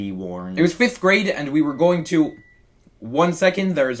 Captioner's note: oven beeping